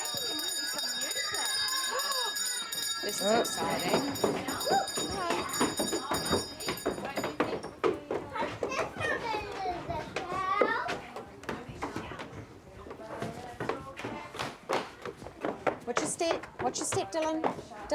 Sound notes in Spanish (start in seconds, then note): 0.0 Sonido de campana; 3.1 pasos